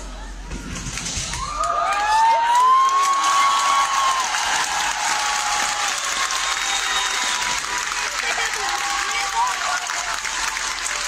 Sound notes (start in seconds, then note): 1.3 audience cheering; 1.4 audience applauding